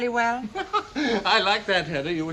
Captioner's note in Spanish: Risas